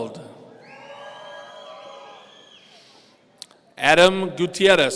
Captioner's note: audience cheering